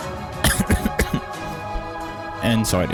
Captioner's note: cough cough cough